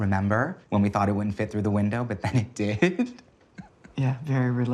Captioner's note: chuckles